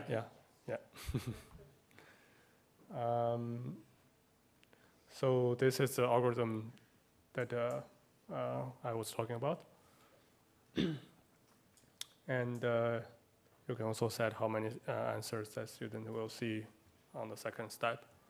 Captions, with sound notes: >> Yeah, yeah. [LAUGH] So this is the algorithm that I was talking about. You can also set how many answers that student will see on the second step.